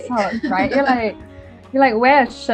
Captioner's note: laughs